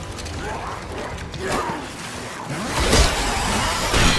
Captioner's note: scary music; zombie grunting